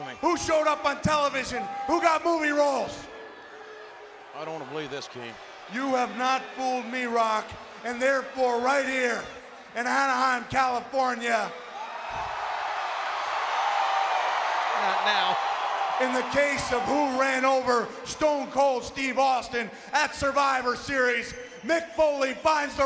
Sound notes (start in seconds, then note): 11.7 applause